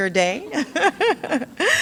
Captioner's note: laughs